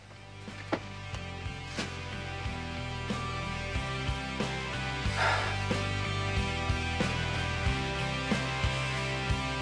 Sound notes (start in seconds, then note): 5.1 sighs; 6.6 slow rock music